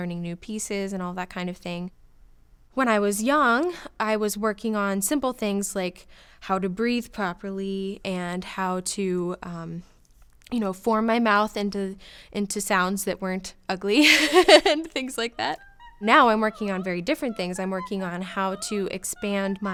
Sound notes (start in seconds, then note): 14.0 laughs